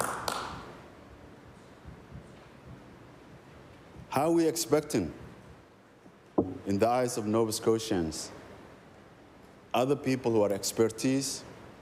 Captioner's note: applause